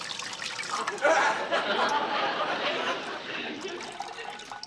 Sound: laughter

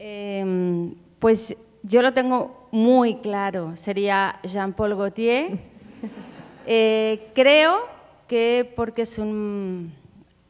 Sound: speaking in Spanish

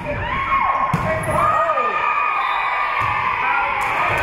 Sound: spectators cheering; whistle being blown; spectators cheering and applauding

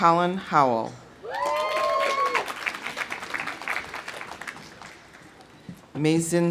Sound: audience cheering; audience applauding

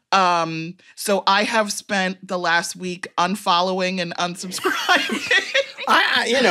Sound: laughs

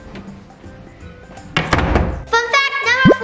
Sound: door closes

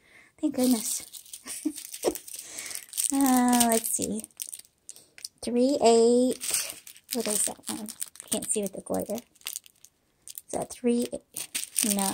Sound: laughter

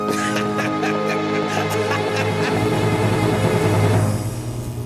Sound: laughing

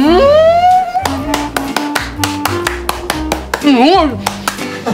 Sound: applaude

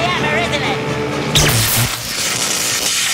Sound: zapping

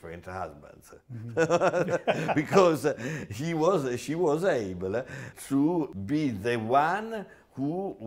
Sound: laughs

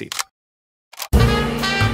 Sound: camera clicks; upbeat music

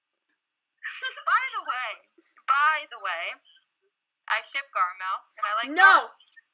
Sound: laughs

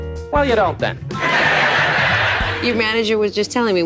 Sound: laughing

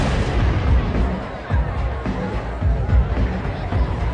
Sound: crowd chattering

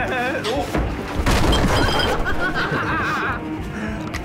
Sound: laughing

